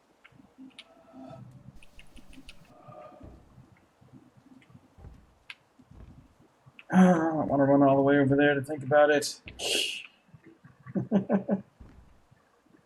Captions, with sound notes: [sighs] And I don't wanna run all the way over there to think about it! [laughs]